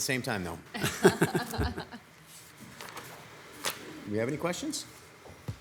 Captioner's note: council members laughing